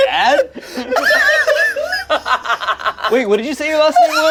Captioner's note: group laughs